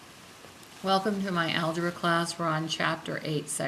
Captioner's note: voiceover